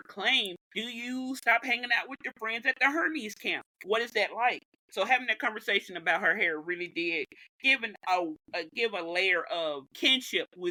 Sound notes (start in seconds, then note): none